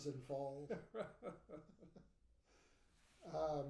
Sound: laughing

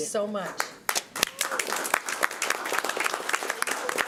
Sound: applause

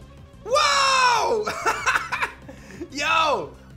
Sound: laughs

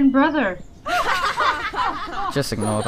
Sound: laughter while ell is ANGERY

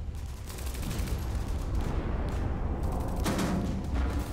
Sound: guns firing

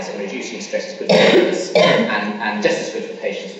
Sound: coughing masks speaker

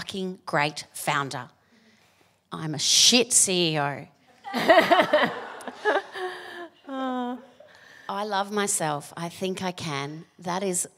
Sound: laughter

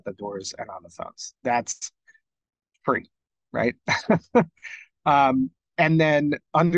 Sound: laughs

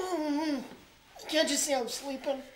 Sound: groaning

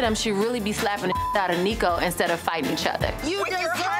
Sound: beep

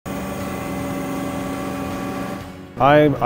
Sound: machine whirring

